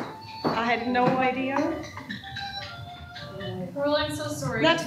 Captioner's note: cell phone ringing